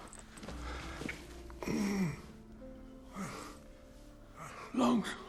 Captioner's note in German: Stöhnen, Keuchen